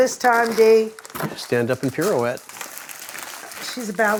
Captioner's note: packaging rustling